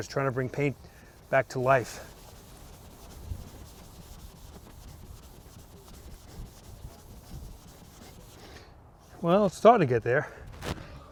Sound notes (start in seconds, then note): 2.7 vigorous buffing